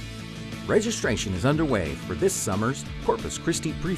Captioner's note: voiceover